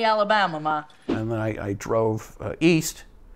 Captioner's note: graphics whooshing